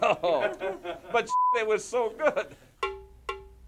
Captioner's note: beep; drum music